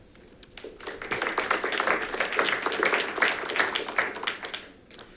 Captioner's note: audience applauding